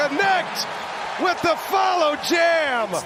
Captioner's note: cheers and applause